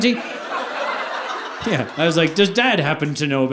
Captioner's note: audience laughing